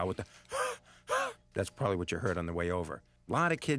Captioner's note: gasps